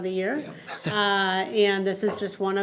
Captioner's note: laughs